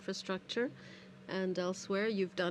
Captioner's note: speaking in french